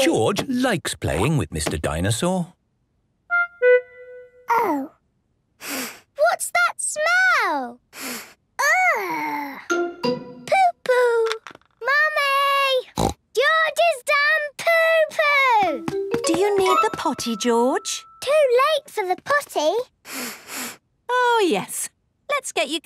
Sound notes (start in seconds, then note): 7.9 sniffs; 12.9 snorts; 20.0 sniffs